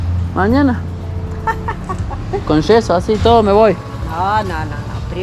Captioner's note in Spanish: Risas